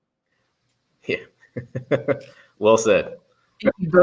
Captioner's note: laughs